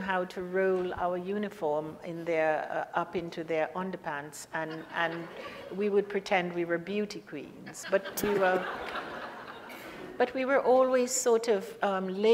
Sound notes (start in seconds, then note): 4.6 audience laughs; 7.7 laughs; 7.8 audience laughs